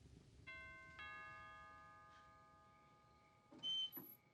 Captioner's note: doorbell ringing